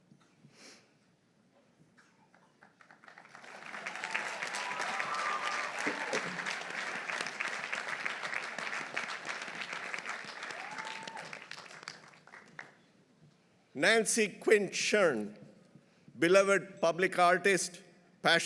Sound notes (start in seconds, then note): 2.6 audience applauding; 3.2 audience cheering